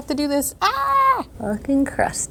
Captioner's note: yelling